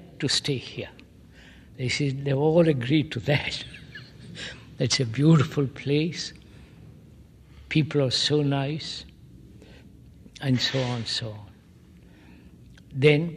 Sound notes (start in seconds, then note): 3.5 laughs